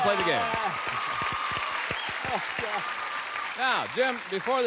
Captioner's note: cheers, applause